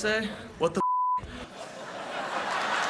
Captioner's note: laughter; applause